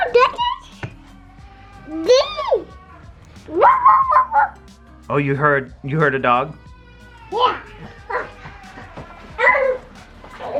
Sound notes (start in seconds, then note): 3.5 dog noises